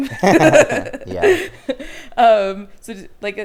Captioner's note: both laughing